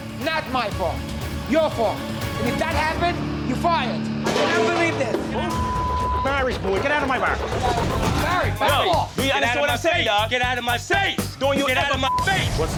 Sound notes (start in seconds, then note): 4.2 metal clanking